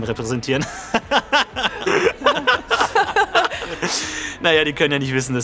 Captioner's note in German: Beide lachen